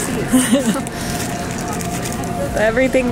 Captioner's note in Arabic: يضحك